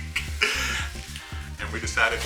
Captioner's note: laughs